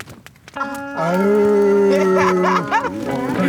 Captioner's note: laughter